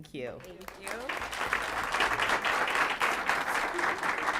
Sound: applause

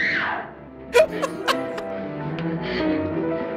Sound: laughs

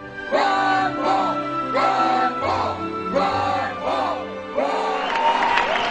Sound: crowd chanting

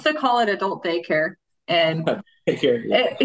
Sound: laughing

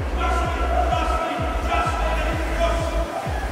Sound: shouts

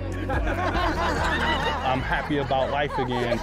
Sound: laughter

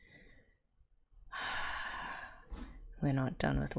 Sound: exhales

